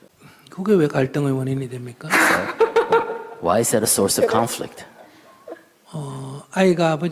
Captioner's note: questioner Laughter